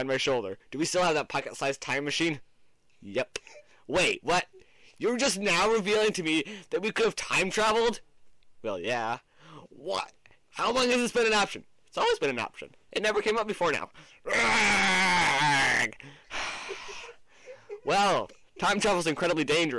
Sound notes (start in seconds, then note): 16.0 sigh